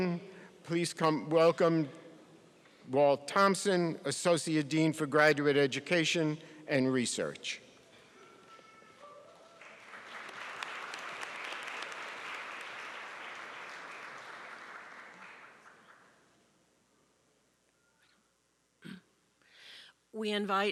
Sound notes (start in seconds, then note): 9.2 applause